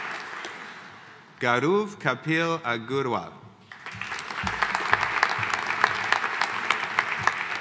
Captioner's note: audience applauding